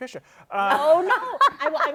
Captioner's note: laughter